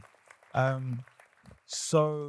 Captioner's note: applause